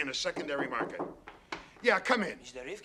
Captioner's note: knocks on door